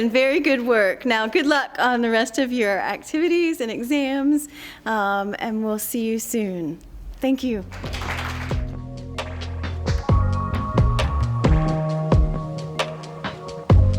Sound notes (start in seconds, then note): 7.6 applause; 7.6 closing music